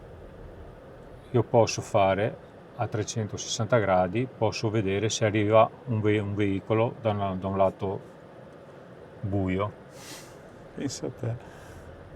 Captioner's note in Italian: sbuffare